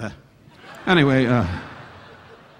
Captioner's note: audience laughing